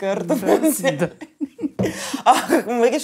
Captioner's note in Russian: смеются